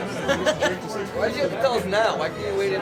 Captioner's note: laughter